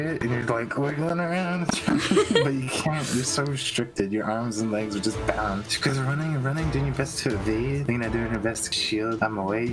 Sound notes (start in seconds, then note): 1.7 laughter